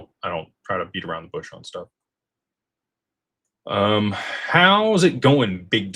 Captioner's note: none